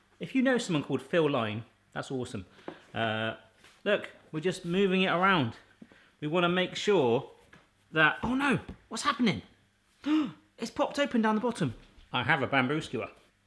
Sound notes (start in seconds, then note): none